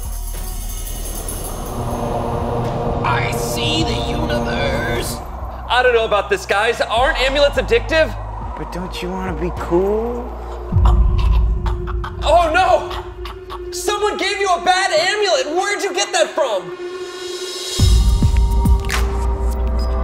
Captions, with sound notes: (ethereal music) I see the universe. - I don't know about this, guys. Aren't amulets addictive? - But don't you wanna be cool? (Rudy gasping) - Oh, no! Someone gave you a bad amulet! Where'd you get that from? (suspenseful music)